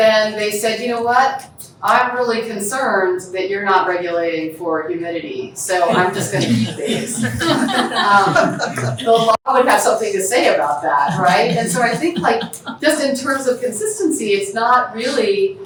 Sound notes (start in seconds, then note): 0.0 audience member speaking; 5.9 laughter